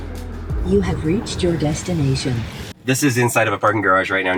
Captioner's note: AI Voice